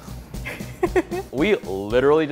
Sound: laughs

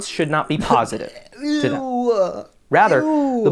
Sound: coughs and ewwws

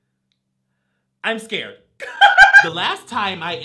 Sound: laughs

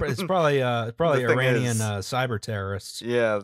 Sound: laughter

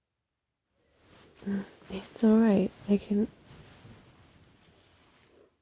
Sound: shuffling

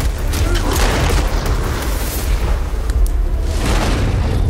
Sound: dramatic music; shotgun fires; fire whooshes

